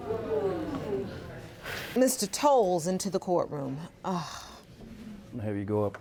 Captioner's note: sighs